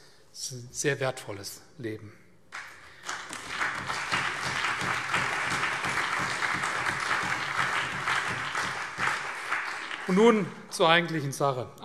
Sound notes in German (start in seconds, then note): 2.5 Allgemeiner Beifall